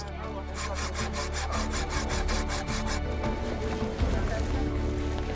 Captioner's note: saw cutting metal